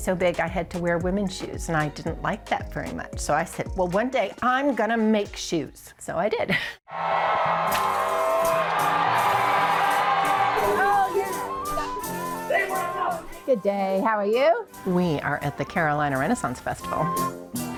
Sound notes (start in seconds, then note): 7.0 people shouting; 9.0 pleasant music